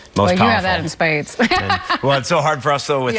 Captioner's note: laughing